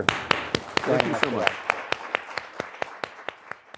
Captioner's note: applause